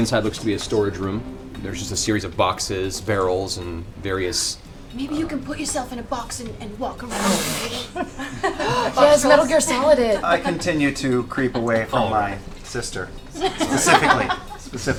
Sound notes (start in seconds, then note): 7.0 gasps